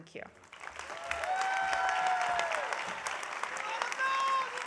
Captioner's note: audience applauding